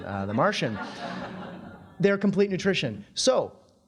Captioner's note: audience laughing